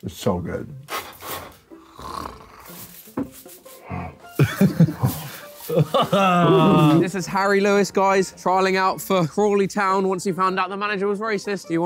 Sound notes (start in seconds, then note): 1.7 grunting; 4.3 all laughing